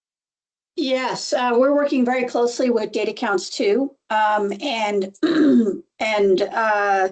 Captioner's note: clears throat